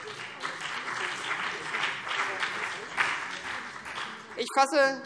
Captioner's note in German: Beifall BÜNDNIS 90/DIE GRÜNEN und vereinzelt CDU